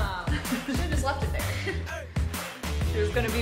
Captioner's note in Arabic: تضحك; أمي تضحك